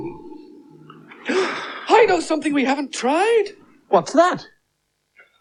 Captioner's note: gasps